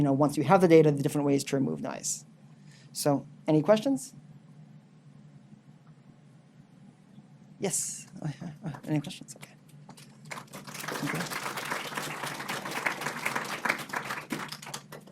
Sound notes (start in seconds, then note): 10.0 audience applauding